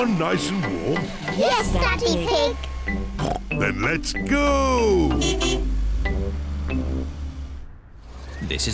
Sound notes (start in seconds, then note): 4.7 car horn honks